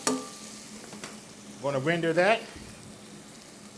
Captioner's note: tongs tap